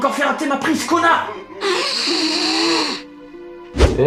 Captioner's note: sound of a guy blowing his nose loudly